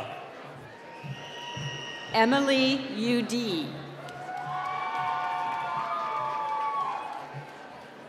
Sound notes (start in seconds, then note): 1.2 cheering